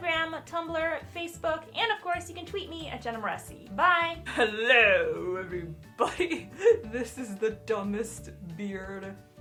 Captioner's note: giggles